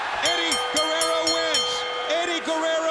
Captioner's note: bell rings